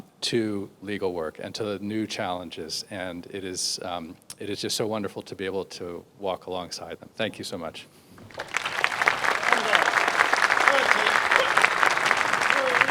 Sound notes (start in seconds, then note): 8.2 crowd applauds